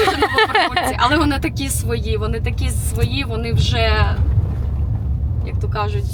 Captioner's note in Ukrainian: сміх